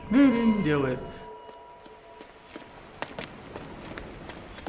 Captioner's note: sound of slow heartbeat on heart rate monitor